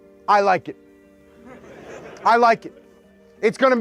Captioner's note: soldiers laugh